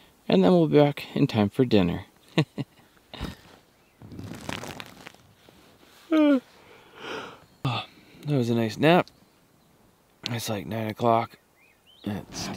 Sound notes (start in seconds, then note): 2.2 chuckles; 6.0 yawns